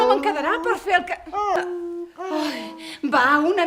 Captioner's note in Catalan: Gemecs de gos